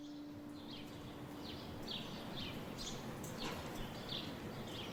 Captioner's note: birds chirping